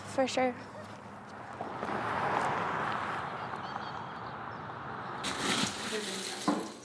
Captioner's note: birds chirping; vehicle droning; food crunching